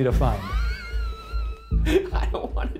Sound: laughing

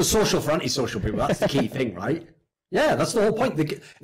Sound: laughs

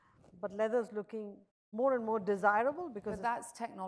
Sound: none

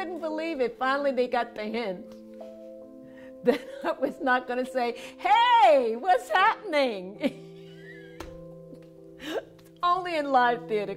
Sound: laughter

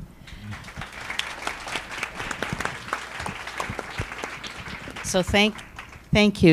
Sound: applause

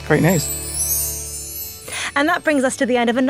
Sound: chimes tinkling

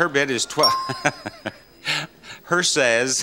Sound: chuckles

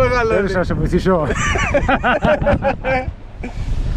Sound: laughs

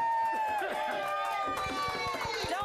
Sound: audience cheering

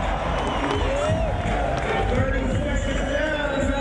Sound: crowd goes wild

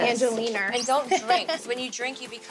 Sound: chuckling

